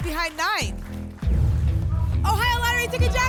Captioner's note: boom; phaser sound